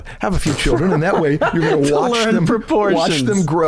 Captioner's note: chuckle